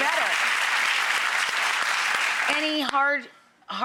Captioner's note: crowd applauds